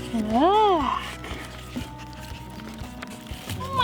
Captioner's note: sniff, sniff